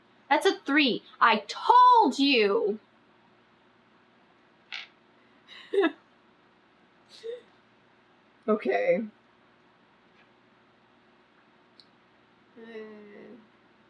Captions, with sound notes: THAT'S A THREE I TOLD YOU [LAUGHS] OKAY EH